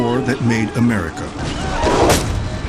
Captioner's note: whip cracks; dramatic music